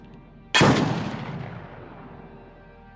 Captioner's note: gunshot